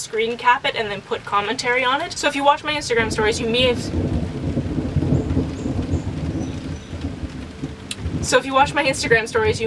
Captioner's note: thunder